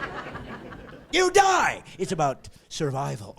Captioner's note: laughing